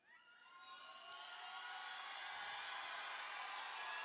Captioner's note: crowd cheering